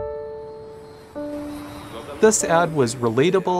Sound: airplane engine zooms

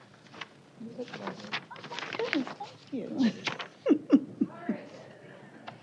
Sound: indistinct chatter

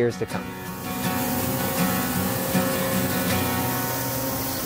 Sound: broom whirling

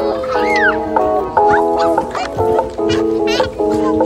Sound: excited noises

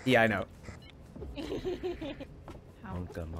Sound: laughs

